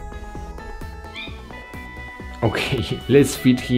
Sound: cat mews

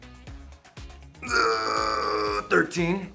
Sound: groaning

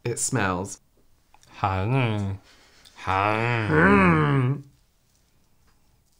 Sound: some Kind Of Gagging Noise?

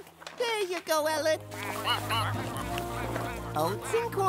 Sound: ducks quacking

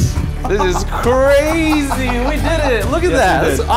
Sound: laughing

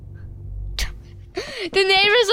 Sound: giggling

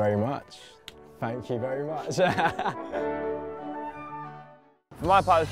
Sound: laughing

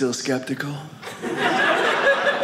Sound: audience laughing

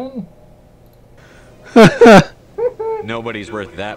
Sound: laughs

